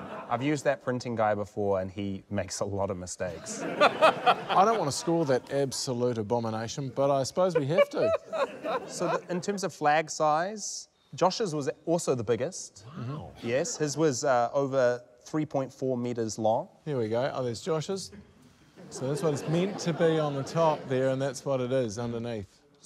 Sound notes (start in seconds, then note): 3.3 laughter